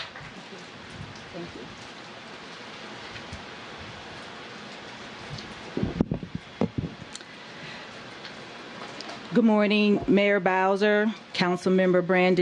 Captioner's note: applause